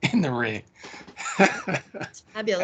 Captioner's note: laughing